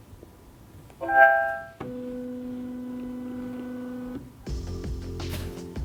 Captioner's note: device chimes and whirs; slow upbeat music